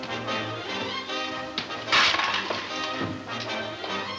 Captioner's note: clattering